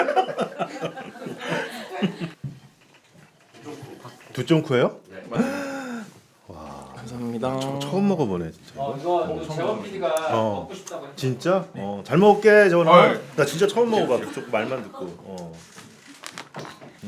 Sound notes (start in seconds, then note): 5.4 gasping